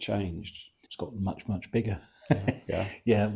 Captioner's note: laughs